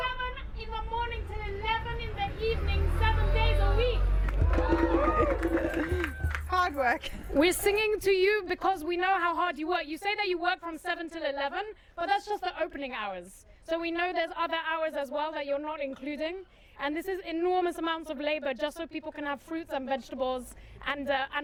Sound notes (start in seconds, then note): 4.0 crowd applauds